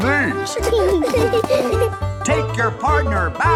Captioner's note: laughing